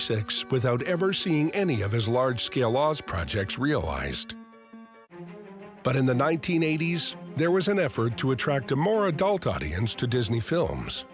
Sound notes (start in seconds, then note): none